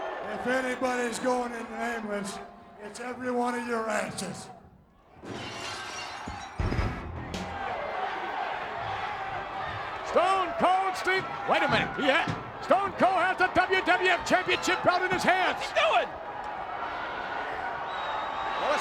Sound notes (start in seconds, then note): 5.2 glass shattering; 16.4 crowd yelling